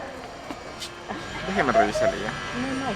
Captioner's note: in Spanish